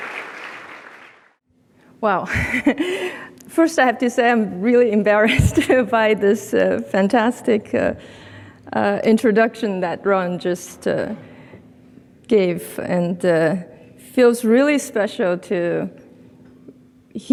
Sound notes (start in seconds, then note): 2.7 laughs